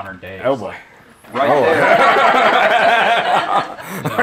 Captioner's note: laughter